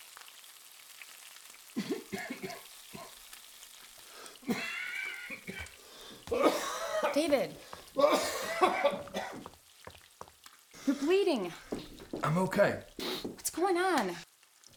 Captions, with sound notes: (David coughing) - David. You're bleeding. - I'm okay. - What's going on?